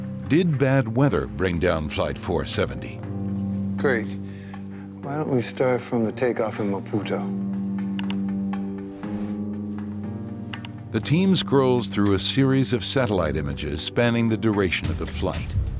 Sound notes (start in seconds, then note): 7.9 clicking